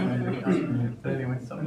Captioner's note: audience laughing